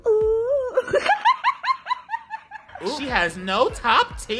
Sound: woman laughs

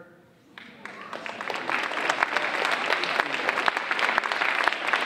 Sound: audience applauding

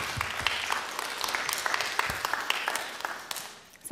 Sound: applause

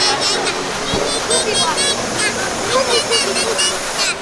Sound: baby talk

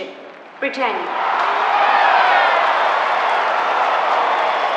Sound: crowd cheering

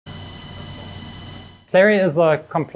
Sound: legs whirring

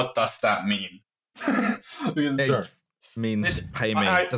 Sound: laughs

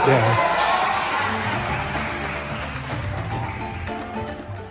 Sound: people applauding

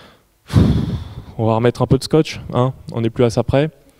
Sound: sigh

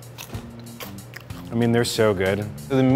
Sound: crunching

